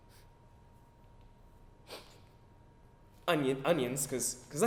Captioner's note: sniffs